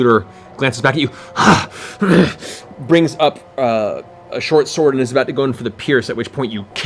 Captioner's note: heavy breathing